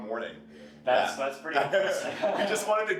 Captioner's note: laughs